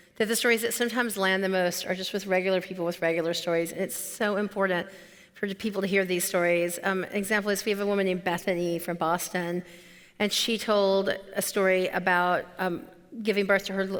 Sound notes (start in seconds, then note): none